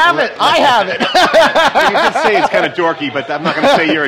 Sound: laughs

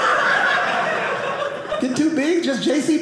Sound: audience laughing

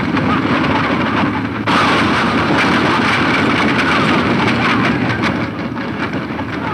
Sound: running hoof beats and wagons rattling

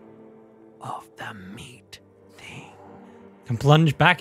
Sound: whispering

